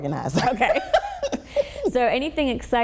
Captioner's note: laughing